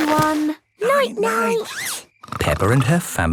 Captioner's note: snores